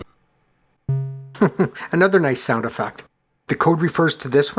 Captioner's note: chuckles